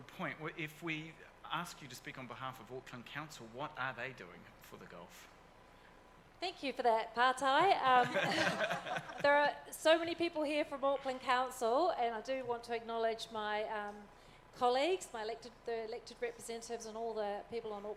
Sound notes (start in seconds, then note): 7.5 speaks foreign language; 8.0 audience laughs